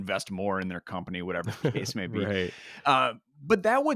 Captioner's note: laughs